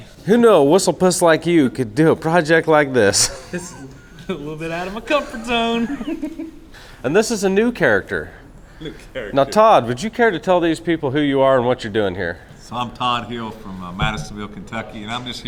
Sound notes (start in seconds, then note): 3.2 both giggling; 6.2 giggles